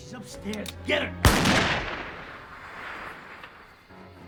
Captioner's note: gun fires